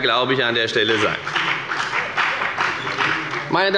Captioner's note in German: Beifall bei der FDP